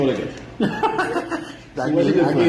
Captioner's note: all laughing